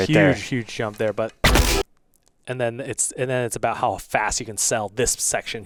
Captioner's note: none